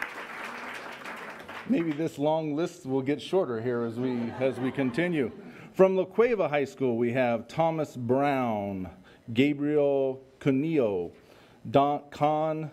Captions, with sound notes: Maybe this long list will get shorter here as we continue. (laughter) From La Cueva High School we have Thomas Brown, Gabriel Cuneo, Kaan Dokmeci,